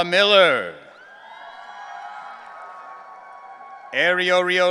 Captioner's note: audience cheering